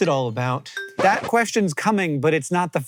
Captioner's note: record scratch